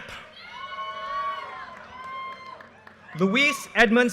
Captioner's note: audience cheers and applause